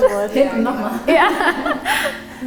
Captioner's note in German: lacht